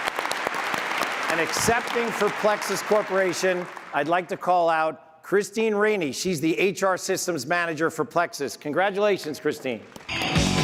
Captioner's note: applause